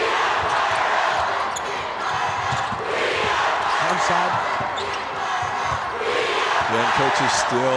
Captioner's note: crowd